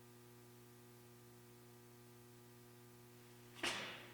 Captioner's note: light humming